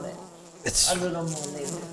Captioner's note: bee buzzing